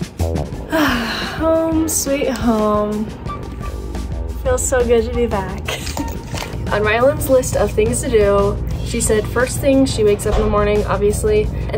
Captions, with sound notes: (sighs) Home, sweet home. Feels so good to be back. (laughs) On Rylan's list of things to do she said first thing she wakes up in the morning, obviously,